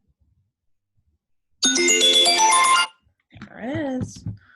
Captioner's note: alarm rings loudly